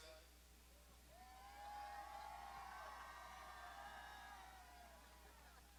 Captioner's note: graduates shouting